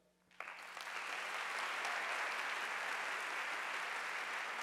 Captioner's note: audience applauding